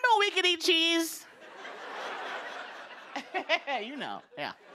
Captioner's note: laughter